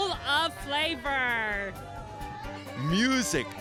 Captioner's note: people cheering